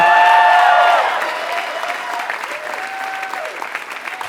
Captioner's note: applause